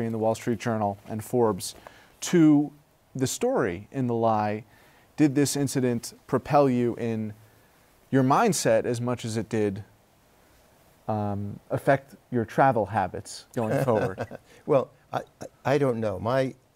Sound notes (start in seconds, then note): 13.6 laughter